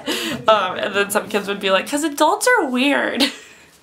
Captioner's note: laughs